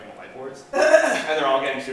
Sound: chuckles

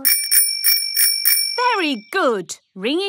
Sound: rings bell

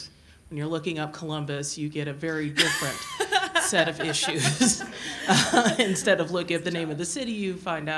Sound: laughter

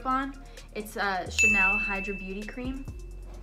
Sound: bell dings

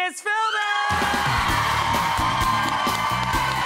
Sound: crowd cheering; funky music

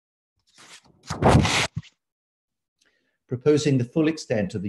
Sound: paper shuffling

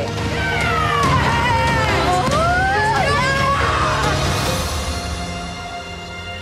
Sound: hopeful music; children cheering

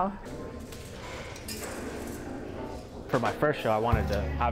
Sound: voices echoing in gallery

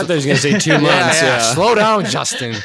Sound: laughs

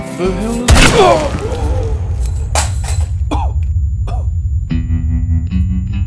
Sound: pain noises

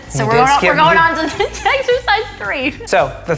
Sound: chuckles

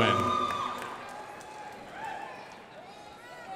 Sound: crowd applauding

